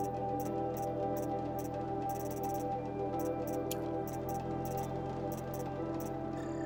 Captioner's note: none